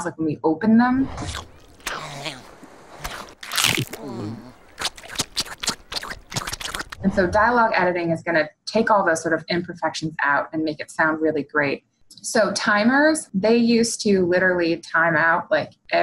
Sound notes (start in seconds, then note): 1.1 SpongeBob licks loudly